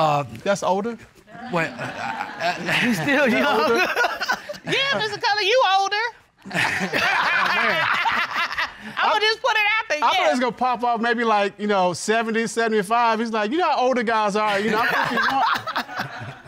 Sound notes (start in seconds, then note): 1.3 laughs; 1.6 stammers; 6.4 all laughing; 14.5 laughs